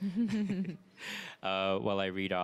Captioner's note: laughs